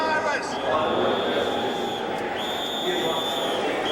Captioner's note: blowing whistle